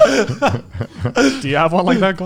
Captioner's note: laughing